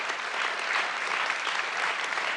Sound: applause

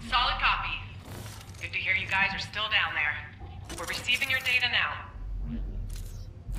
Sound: radio

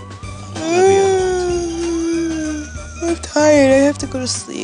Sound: yawning

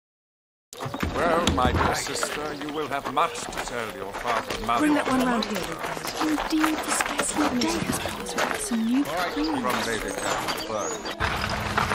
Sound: background chatter; clatter of horses and carriage, with swelling music

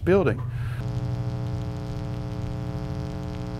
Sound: buzzes

